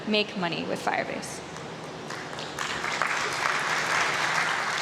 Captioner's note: applause